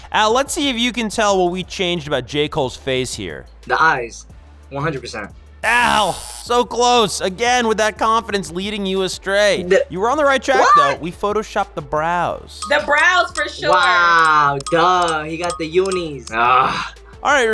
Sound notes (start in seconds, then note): 5.8 buzzer